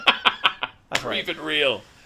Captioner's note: laughs